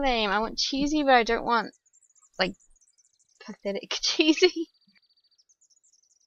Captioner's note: laughs